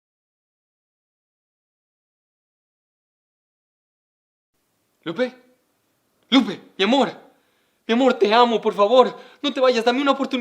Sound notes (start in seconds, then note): 6.3 man speaking in Spanish